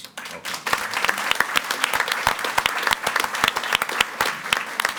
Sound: audience applauding

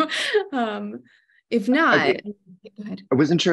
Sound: laughs

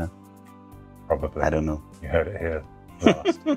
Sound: laughs

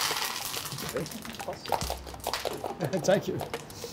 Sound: claps

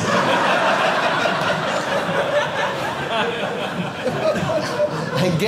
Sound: audience laughing

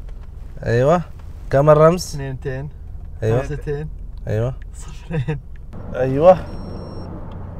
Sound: Arabic

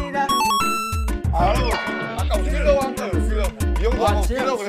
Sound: humph

